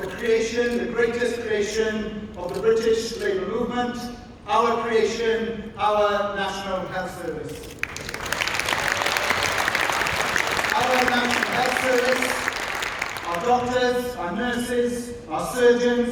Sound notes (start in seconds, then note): 7.7 applause